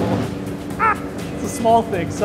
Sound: laughs

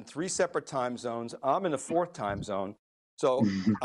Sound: guests chuckling

